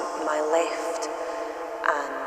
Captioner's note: echo intensifies